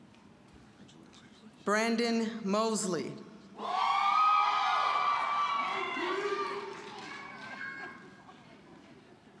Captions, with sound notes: Brandon Mosley. (loud cheering)